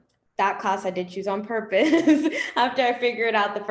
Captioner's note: laughs